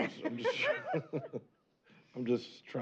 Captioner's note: chuckle